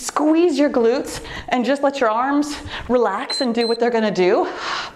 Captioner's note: timer beeps